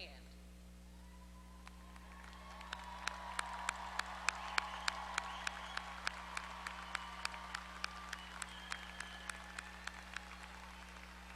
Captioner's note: applause